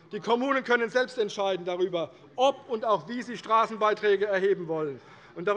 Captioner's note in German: none